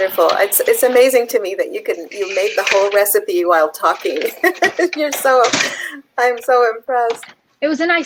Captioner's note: laughs